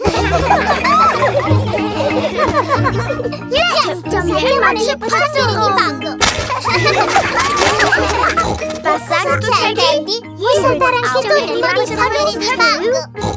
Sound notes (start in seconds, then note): 0.0 kids laughing; 7.0 snorts